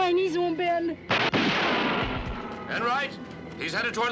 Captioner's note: silah ateşleme